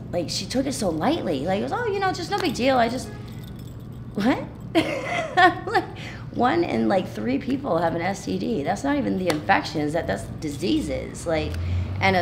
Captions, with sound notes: I was like, "You just?" She took it so lightly, like, "Oh, just no big deal. "I just," what (laughing)? One in, like, three people have an STD. That's not even the infection, that's diseases.